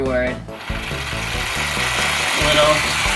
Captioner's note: whirrrrr